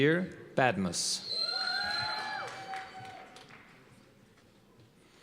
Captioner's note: cheers and applause